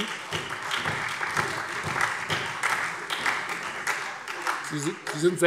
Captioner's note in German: Beifall Freie Demokraten und SPD